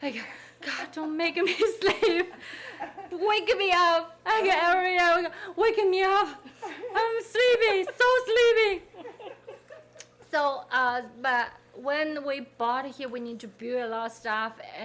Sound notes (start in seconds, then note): 4.5 interviewer laughing; 8.8 people laughing